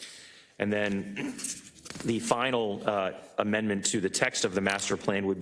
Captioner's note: cough